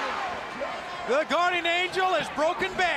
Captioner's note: crowd chatter